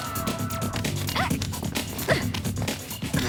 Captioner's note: scream; coughing